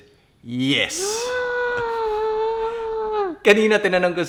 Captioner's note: gasps